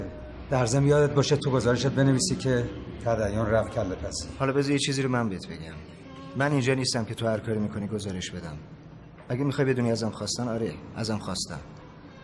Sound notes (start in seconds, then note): none